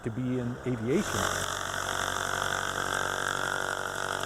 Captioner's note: plane engine revving